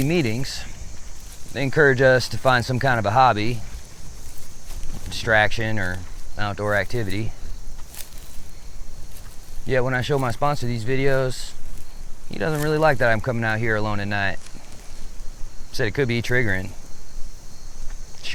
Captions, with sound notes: At my weekly meetings, they encourage us to find some kind of a hobby, distraction, or outdoor activity. (grass rustling) (insects chittering) Yet when I show my sponsor these videos, he doesn't really like that I'm coming out here alone at night. Said it could be triggering.